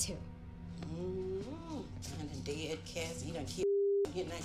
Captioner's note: moans